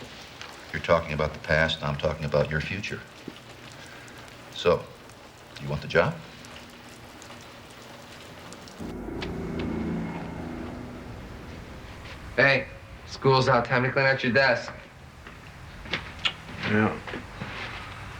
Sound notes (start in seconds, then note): 8.7 car passes